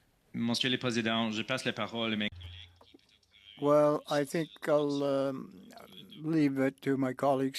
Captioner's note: speaking French